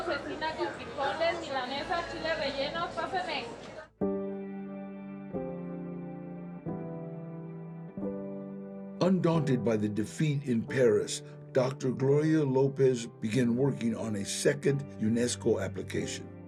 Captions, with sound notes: salted meat with beans, breaded steak, and stuffed chilis, come on up. MEXICAN CUISINE WILL KEEP TRYING [in English] Undaunted by the defeat in Paris, Dr. Gloria López began working on a second UNESCO application.